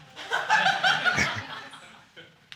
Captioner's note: audience exclaiming